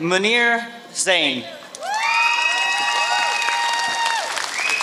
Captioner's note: applause